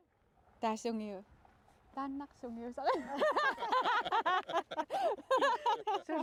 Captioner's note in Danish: haha